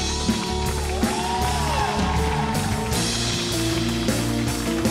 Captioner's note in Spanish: Ovación